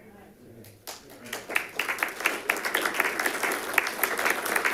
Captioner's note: applause